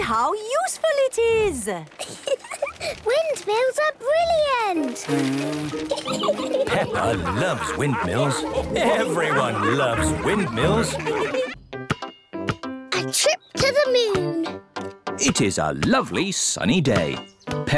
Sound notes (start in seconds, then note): 5.4 blows